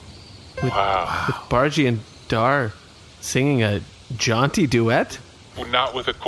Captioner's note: laughing